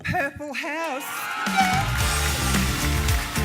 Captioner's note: cheering